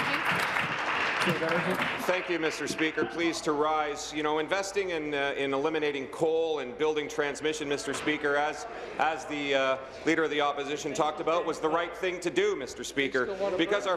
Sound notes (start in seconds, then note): 2.7 applause